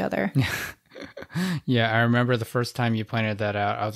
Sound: laughs

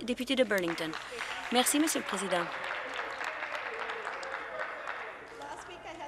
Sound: some Applause

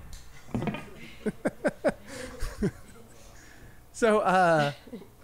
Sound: interviewer laughing

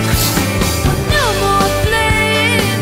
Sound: cat hissing

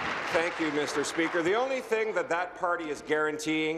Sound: applause

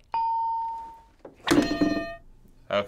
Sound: ding; hitting bell

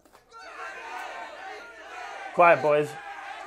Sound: voices shouting

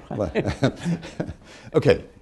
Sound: laughter

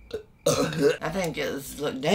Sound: burps

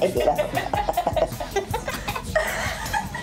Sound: laughing

